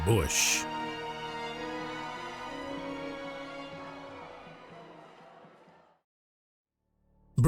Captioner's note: dramatic music; protestors shouting